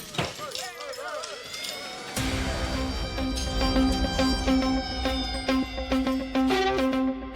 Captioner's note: siren blaring; dramatic music